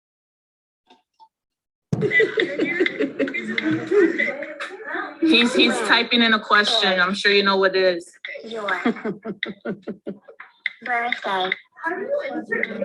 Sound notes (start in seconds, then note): 2.0 giggles; 8.6 giggles